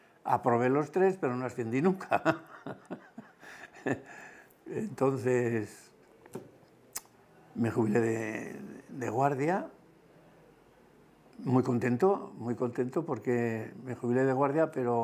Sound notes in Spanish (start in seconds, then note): 2.0 ríe